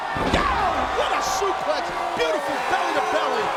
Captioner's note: mat thumping